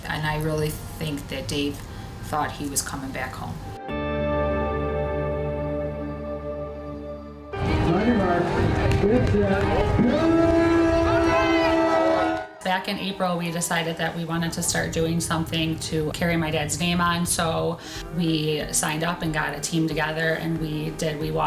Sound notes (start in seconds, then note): 3.7 calm music; 7.5 chattering